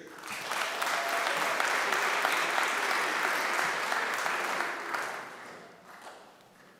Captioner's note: applause